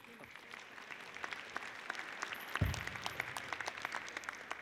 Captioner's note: audience applauds